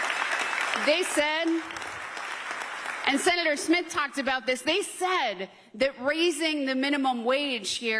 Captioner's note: applause